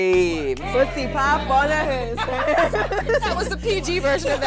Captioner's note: laughter